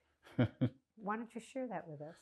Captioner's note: laughing